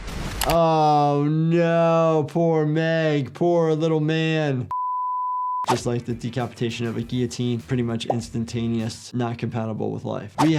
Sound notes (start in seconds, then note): 4.7 screen beeps